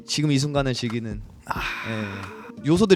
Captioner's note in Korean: 감탄